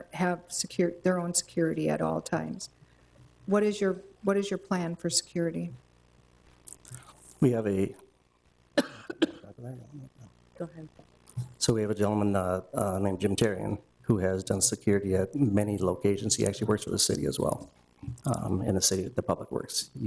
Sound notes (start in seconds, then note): 9.5 murmurs